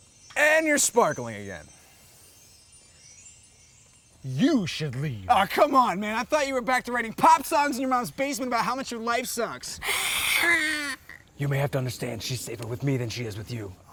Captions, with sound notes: And you're sparkling again! You should leave! Ah, come on, man! I thought you were back to writing pop songs in your mom's basement about how much your life sucks! - *Hissing* - *Mock Hissing* You may have to understand she's safer with me than she is with you!